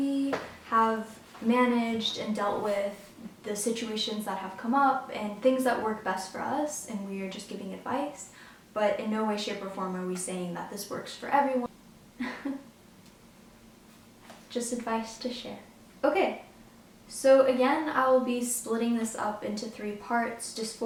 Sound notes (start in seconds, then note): 12.2 laughs